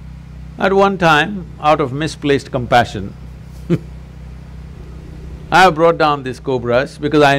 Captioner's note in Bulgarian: Смях